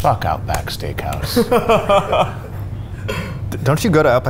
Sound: clapping slowly; laughing

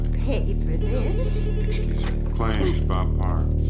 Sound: phone rings

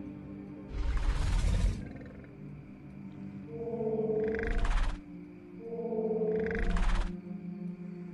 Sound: mosasaurus Sounds

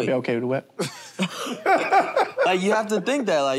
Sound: laughter

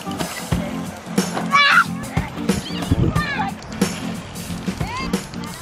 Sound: child yells out

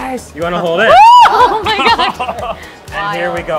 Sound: yelps

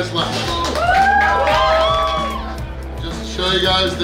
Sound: cheering and clapping

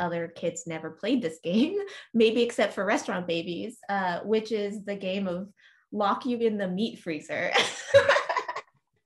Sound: laughs

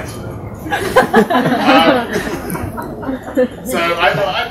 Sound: laughter

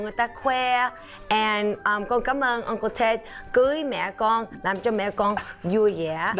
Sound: speaking foreign language

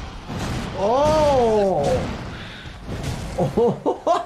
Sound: slamming; chuckles

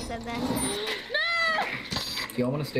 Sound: gasps

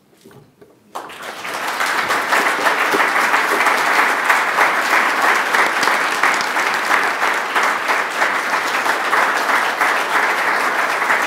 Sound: clapping

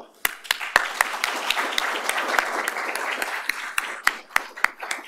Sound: applause

